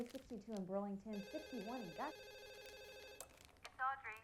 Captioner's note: telephone ringing